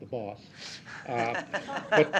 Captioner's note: laugh